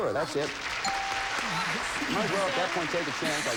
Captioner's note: audience applauding